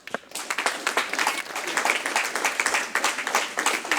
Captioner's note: audience clapping